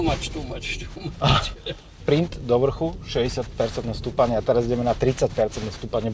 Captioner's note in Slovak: smiech